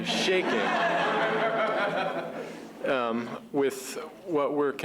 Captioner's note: laughter